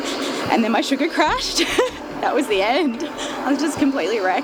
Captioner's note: laughs